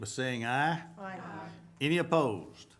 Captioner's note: group chanting